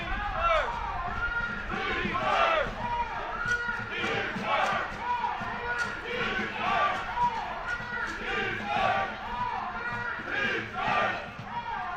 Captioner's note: chanting